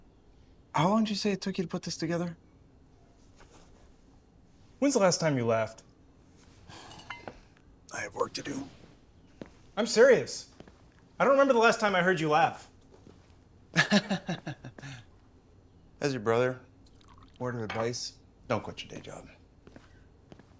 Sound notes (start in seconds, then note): 6.3 sighs; 13.7 sarcastic chuckling